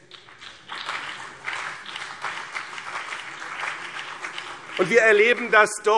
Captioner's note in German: Beifall BÜNDNIS 90/DIE GRÜNEN und vereinzelt CDU